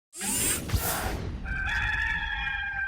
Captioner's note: mechanical whirring; rooster crowing